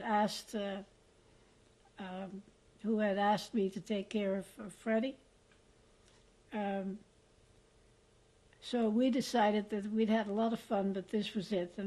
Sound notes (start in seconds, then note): 5.2 pauses for 3 seconds